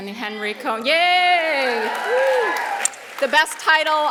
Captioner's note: all applauding